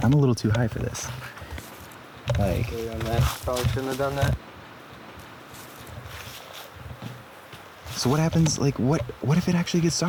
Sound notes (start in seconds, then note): none